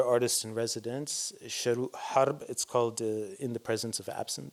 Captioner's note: non-english